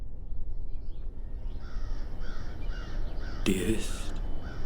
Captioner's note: crow cawing